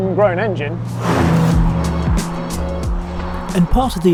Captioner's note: engine humming